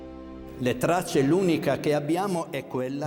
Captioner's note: speaking Italian